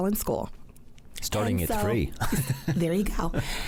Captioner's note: laughs